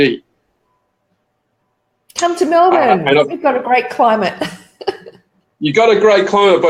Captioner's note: laughs